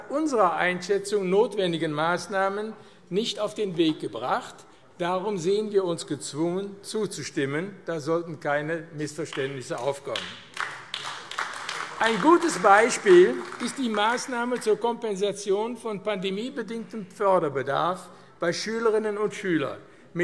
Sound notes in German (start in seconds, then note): 9.3 Beifall AfD